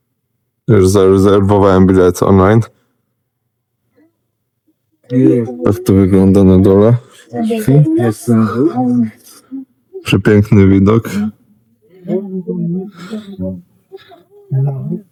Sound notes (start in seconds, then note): 13.9 throat clearing